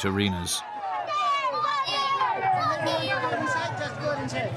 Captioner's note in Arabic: همهمات الحشد